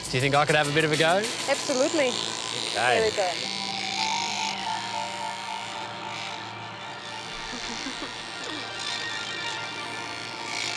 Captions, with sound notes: Do you think I could have a bit of a go? Absolutely. (WAND WHIRRS) (SENSUAL MUSIC)